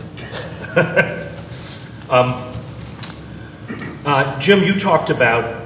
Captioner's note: laughter